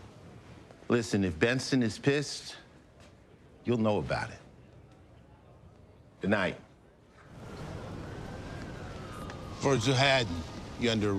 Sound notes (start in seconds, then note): none